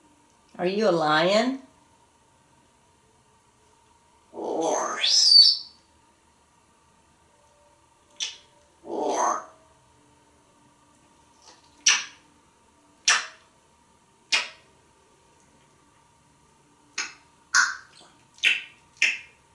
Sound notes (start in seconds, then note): 11.6 smooches; 16.7 tongue clicking & smacking